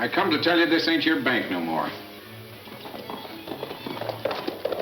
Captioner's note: hooves clunking